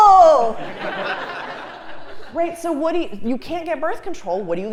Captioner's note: laugh